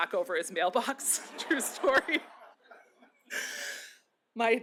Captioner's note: laughter